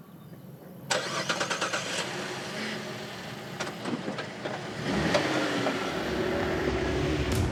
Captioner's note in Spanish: ruido al arrancar el motor